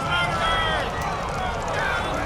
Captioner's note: crowd jeering; crowd yelling